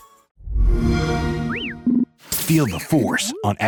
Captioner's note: sound effect; beeping